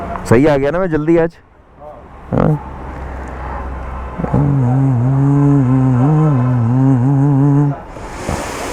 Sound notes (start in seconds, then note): 4.1 humming a song